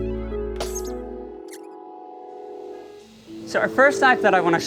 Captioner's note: letters squeaking